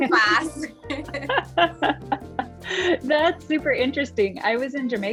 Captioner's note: laughs